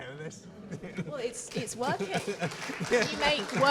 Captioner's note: audience applauding